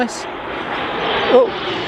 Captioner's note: sound of plane overhead